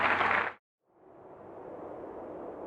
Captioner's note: audience applause; wind howling